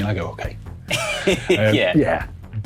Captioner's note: laughs